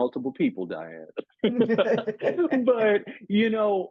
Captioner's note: laughs